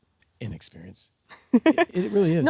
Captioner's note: Sydney laughs